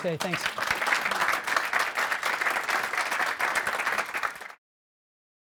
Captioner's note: audience applauding